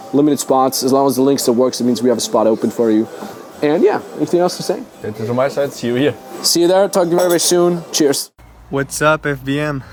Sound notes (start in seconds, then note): 5.5 foreign language